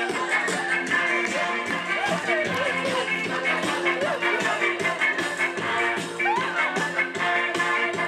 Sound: audience claps along

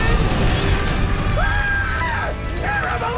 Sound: screaming

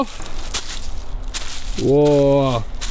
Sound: crunching leaves

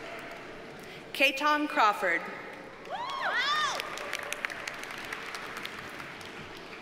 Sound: audience cheers and applauds

